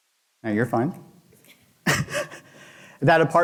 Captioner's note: chuckling